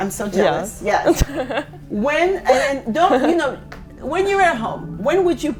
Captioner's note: chuckles